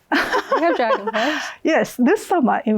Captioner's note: laughs